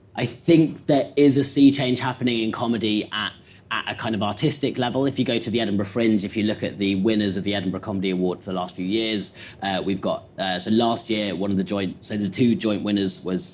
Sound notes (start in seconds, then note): none